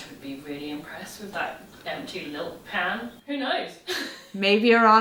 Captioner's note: laughing